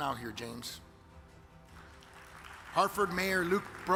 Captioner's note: audience claps